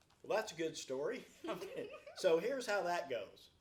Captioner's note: laughs